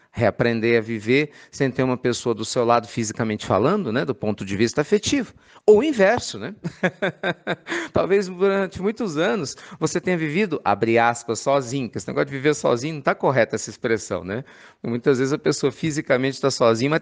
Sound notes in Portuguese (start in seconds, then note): 6.6 risos